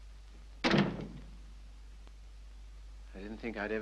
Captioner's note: door closes